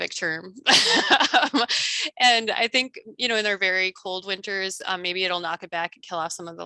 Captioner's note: laughs